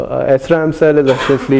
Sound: cough

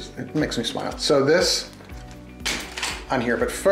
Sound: steel tapping

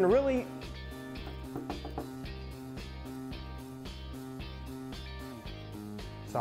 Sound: window knocking sound

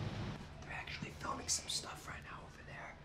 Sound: whispering

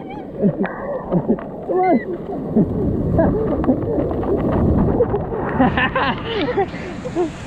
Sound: sounds of the waves, Laughing

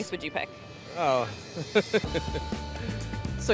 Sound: chuckles

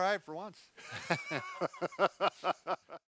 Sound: chuckles

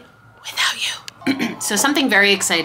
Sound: clears throat

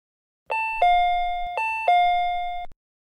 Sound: door chime

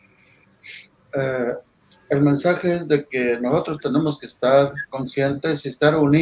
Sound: speaking in foreign language

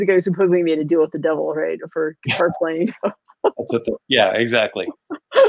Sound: laughing

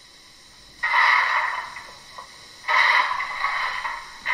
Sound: shoveling coal

